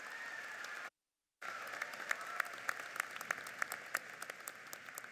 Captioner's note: applauding